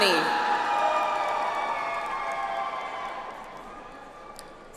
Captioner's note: audience applauds